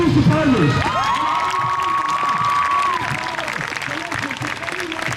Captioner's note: crowd cheers